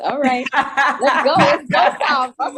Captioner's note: laughter